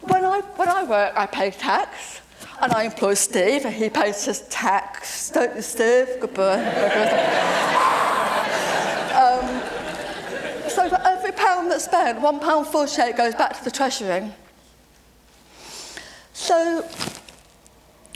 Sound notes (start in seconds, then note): 6.5 laughter; 7.3 exhale of relief